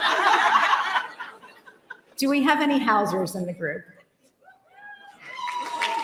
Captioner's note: laughter